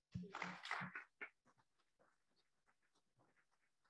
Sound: audience applauding

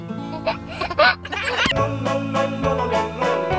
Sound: baby laughing; soft music

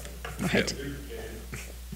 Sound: man speaking distantly

